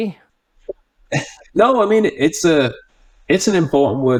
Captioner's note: chuckles